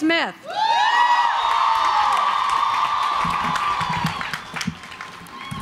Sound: cheering and applauding

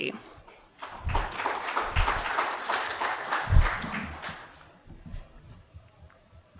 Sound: audience applause

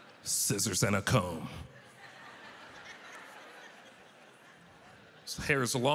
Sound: audience laughter

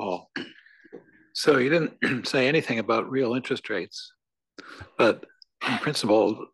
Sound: cough

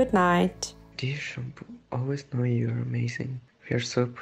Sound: voiceover

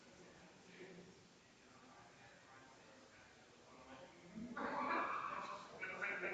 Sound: people chattering distantly continues

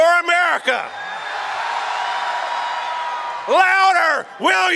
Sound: audience cheers

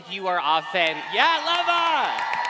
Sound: cheering

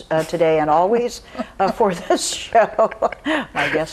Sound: laughs

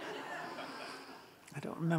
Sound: audience laughs

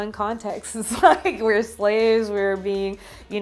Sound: chuckles

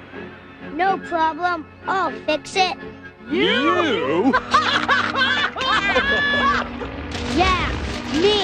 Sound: laughing

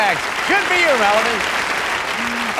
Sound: applause

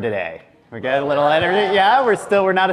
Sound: audience cheers

